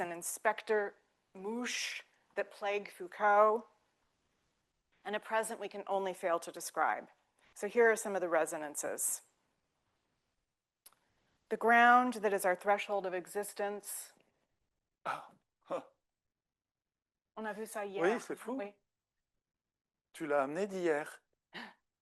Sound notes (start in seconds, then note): 15.1 gasps; 17.4 speaking French